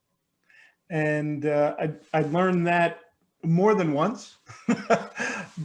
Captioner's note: laughs